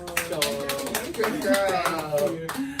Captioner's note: everyone claps